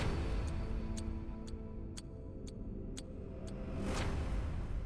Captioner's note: clock ticking